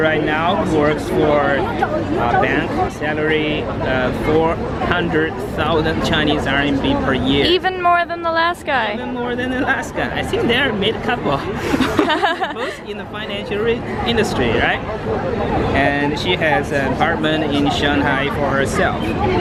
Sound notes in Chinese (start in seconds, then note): 11.4 笑声